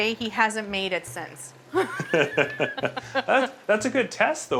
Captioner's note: laughing